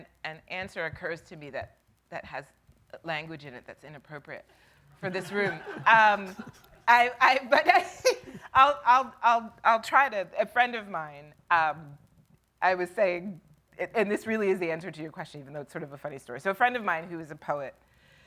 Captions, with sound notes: - An answer occurs to me that has language in it that's inappropriate for this room, (audience laughing) but I'll try to, a friend of mine, I was saying, and this really is the answer to your question, even though it's sort of a funny story. So, a friend of mine who is a poet,